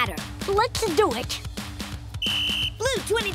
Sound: whistle blowing

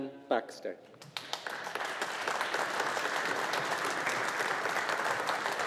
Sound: audience applauding

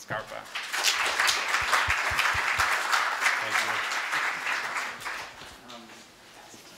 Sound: applause

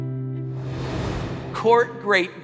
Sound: air swooshing

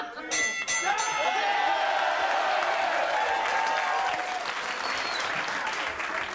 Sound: bell dinging; audience cheering

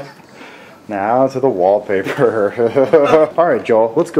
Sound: breaks into laughter

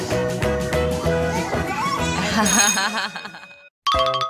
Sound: laughing

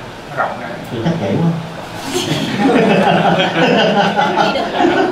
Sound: laughs

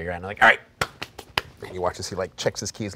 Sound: brushing hands together

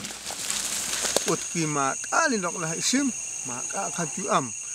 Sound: insects chirping

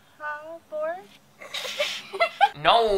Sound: laughs

